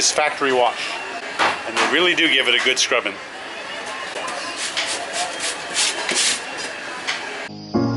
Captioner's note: sound of brush